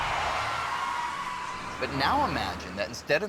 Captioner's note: tires squealing